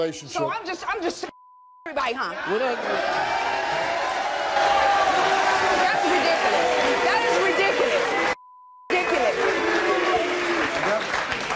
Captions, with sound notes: - So I'm just (beep) huh? (audience claps, cheers and jeers) That's ridiculous. That is ridiculous. (beep) ridiculous.